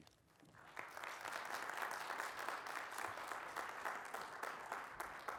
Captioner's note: applause